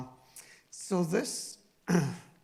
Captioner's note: clearing throat